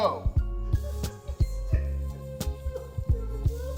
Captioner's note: laughing